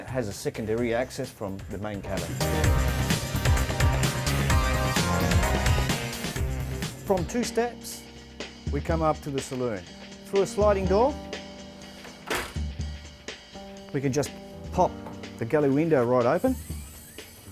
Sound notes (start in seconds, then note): 3.9 slow techno music; 11.9 door opens